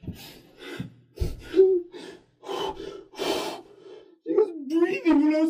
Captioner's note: hyperventilating